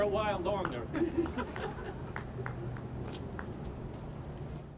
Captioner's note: audience chuckles